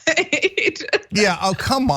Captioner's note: laugh